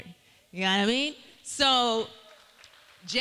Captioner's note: cheering